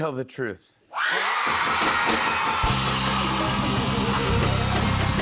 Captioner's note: cheers and applause